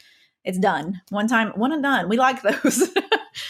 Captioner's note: laughing